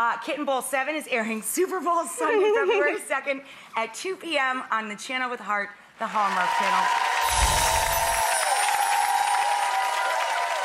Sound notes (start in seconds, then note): 6.2 audience cheers